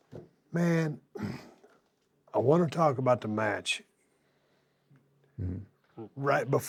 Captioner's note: cough